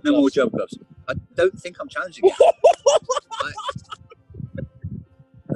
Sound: hoots with laughter

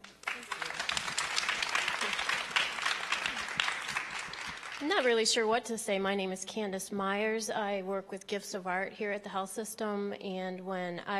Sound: applause

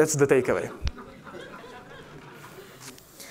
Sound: laughter

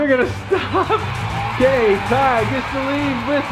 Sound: crowd cheering

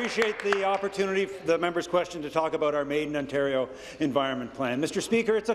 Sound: applause

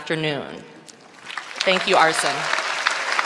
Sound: applause

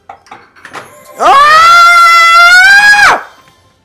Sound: screams

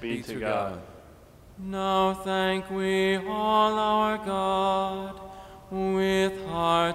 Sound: off microphone

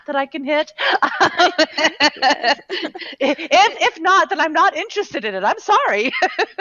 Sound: laughing

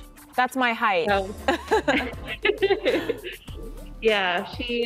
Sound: laughter

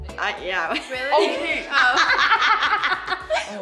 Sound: laughing

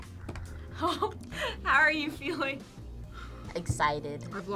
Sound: laughs

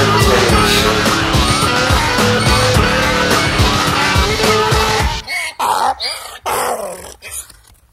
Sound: donkey braying

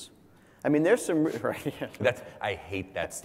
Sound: laugh

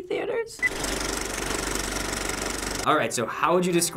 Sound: movie reel clicks

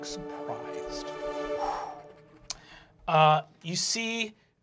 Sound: exhales

